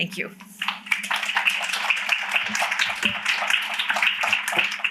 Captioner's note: applause